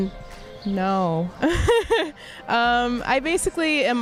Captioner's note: laughs